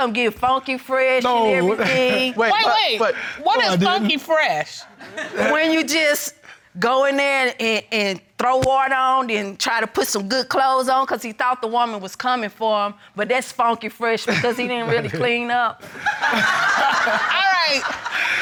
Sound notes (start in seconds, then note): 1.6 laughing; 15.9 everyone laughing